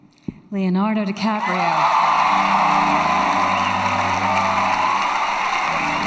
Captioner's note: crowd cheers and claps